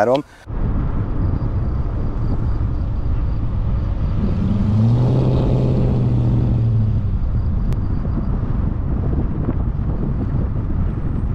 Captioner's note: engine sounds & driving noises playing